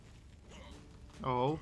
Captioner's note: curious trork noises